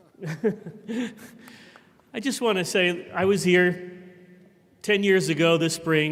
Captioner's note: chuckles